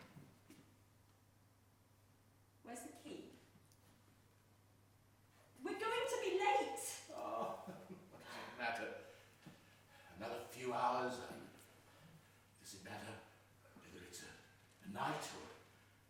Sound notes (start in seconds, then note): 7.1 laughs